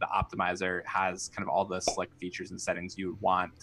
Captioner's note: popup pops